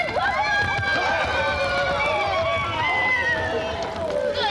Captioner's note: chaotic shouting